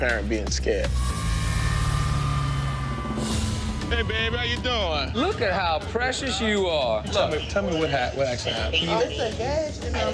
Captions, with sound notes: but I can relate to that parent being scared. [siren blaring] Hey, baby, how you doing? Look at how precious you are. Tell me what actually happened.